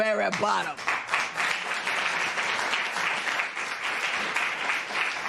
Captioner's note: applause